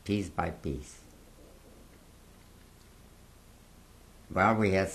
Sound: pauses for 3 seconds

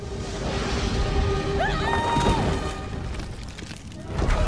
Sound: screams

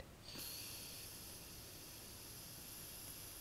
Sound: exhaling

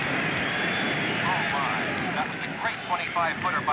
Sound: distant sounds of baseball crowd cheering

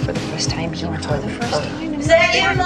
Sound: arguing

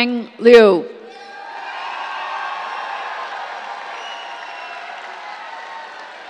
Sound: cheers, applause

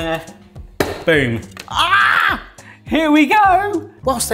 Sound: yells

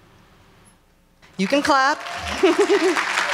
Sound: laughs; applause

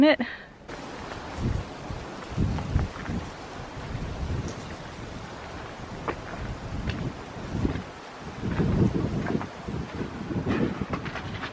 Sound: wind, footsteps

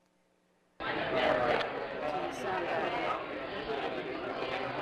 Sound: crowd talking

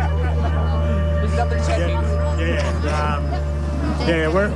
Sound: laughter from the crowd

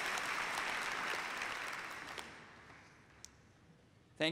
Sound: applause

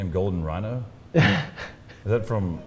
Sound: lauhgs

